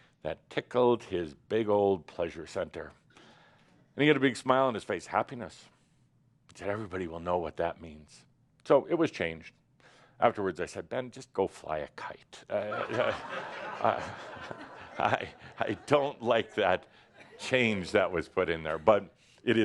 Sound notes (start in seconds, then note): 12.6 laughter